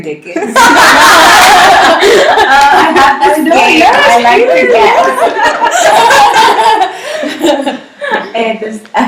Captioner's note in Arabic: ضحكات عالية